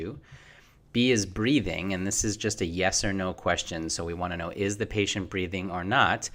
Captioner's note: Breathing